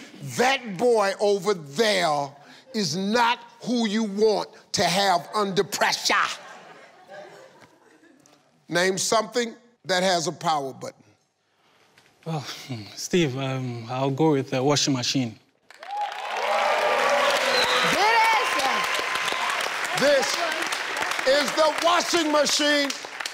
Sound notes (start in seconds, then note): 15.8 audience cheering